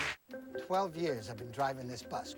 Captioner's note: audience applauding